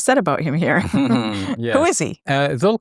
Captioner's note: chuckles